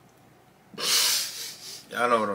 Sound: laughs

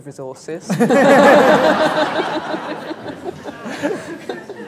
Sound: laughter

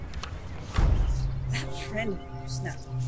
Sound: whooshes

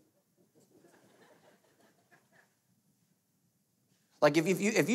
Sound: light laughing

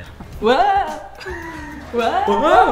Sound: laughs

